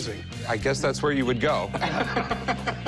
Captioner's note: laughter